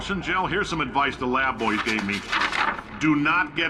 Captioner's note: shuffling papers